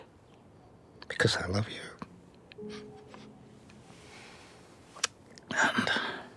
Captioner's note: sniffles